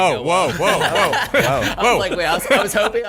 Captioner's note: laughing